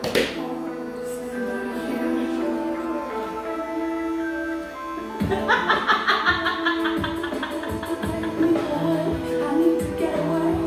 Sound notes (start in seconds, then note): 5.2 laughter